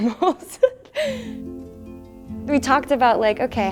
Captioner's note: laughter